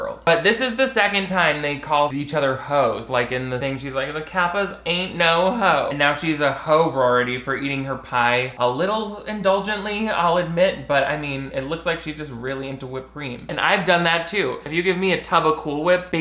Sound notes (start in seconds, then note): none